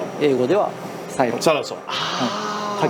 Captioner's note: speaking in foreign language